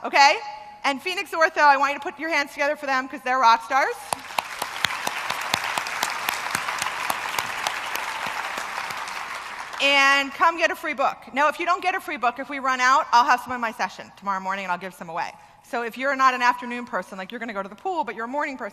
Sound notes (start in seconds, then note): 4.1 applause